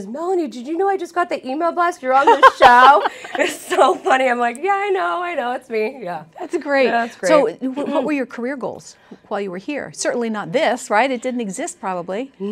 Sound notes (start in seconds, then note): 2.2 laughter